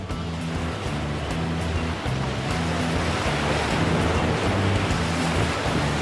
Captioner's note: soft music continues; waves crashing